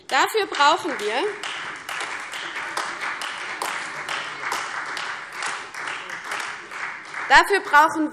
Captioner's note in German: Beifall CDU, AfD und Freie Demokraten